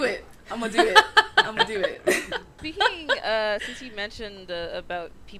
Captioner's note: laughter